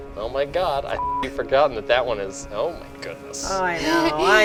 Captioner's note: beep